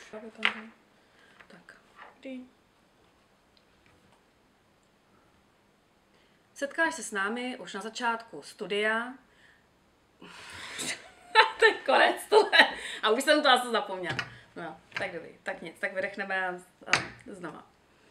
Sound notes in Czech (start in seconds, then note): 10.9 smích